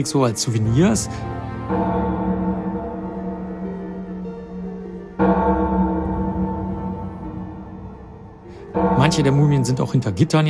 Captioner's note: bell Chimes